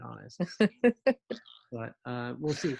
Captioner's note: giggles